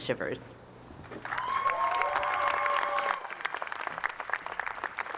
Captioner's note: cheers and applause